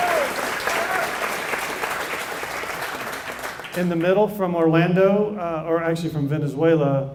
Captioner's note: applause